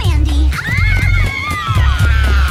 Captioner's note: screaming